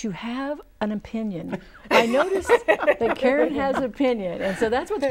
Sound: laughing

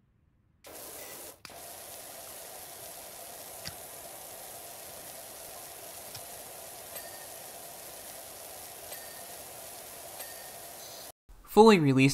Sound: sound of rushing water

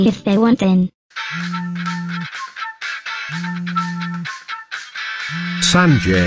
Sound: phone ringing

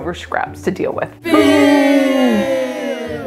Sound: crowd

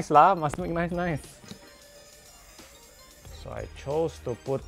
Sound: more expensive screwdriver sounds

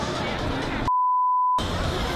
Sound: beep

